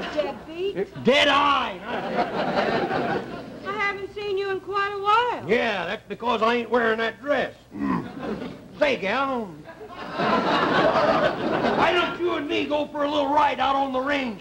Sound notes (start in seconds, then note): 7.7 audience laughter